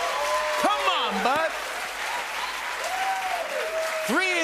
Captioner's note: cheers and applause